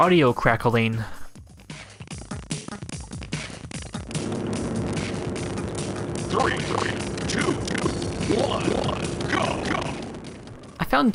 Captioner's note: crackling and stuttering game audio